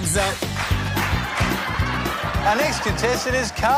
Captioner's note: laughter